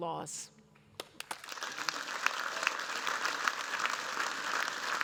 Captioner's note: applause